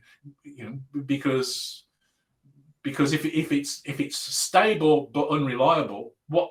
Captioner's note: abbreviated speech